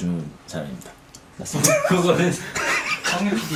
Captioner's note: burst out laughing